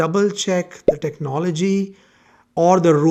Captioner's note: bubble popping